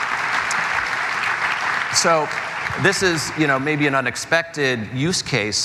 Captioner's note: applause